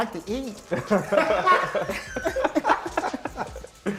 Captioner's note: laughter